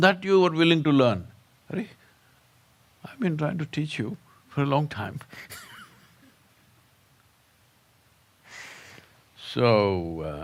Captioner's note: laughs